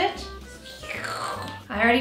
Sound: slurping

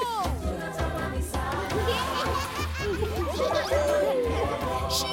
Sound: all laughing

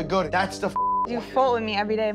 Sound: beep

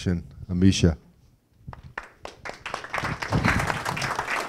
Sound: audience clapping

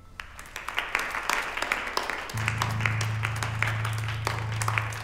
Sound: audience applauding

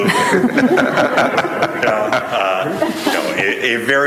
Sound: laughing loudly

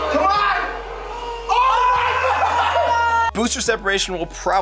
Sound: cheering

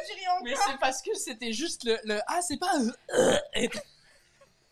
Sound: burp

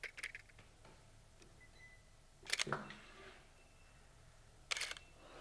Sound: camera shutter clicks

